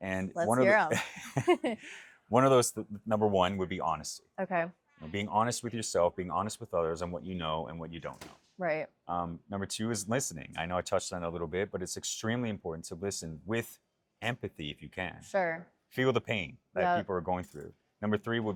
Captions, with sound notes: Okay, let's hear them. (Laughs) One of those, number one would be honesty. Being honest with yourself, being honest with others and what you know and what you don't know. Right. Number two is listening. I know I touched on it a little bit, but it's extremely important to listen with empathy if you can. Sure. Feel the pain that people are going through.